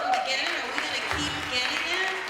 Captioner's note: applause